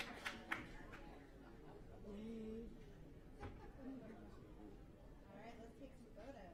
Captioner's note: applause